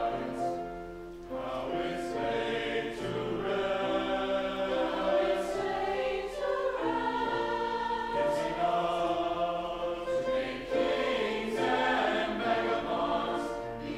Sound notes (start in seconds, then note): 4.8 high voices; 10.2 whole choir